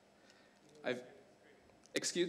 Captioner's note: audience member murmuring